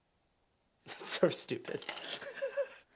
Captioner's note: laughs